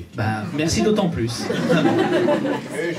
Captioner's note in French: rires public